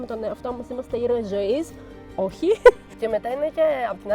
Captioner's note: laughs